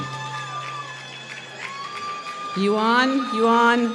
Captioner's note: applause